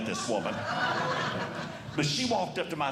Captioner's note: audience Laughing